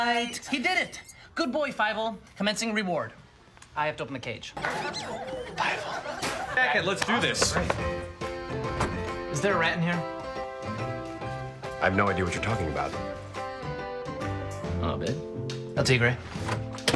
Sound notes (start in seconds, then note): 4.9 whispered